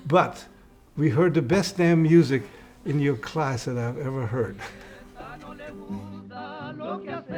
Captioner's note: laughing